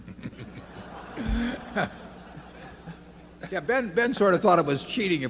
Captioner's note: laughter